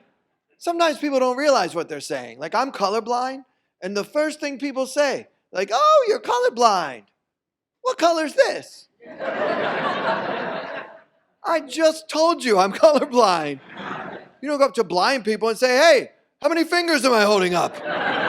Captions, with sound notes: Sometimes people don't realize what they're saying. Like I'm colorblind. And the first thing people say like, oh, you're colorblind. What color is this? (audience laughs) I just told you, I'm colorblind. You don't go up to blind people and say, "Hey, how many fingers am I holding up?" (audience laughs)